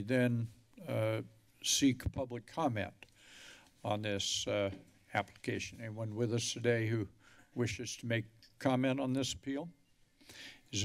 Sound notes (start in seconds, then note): none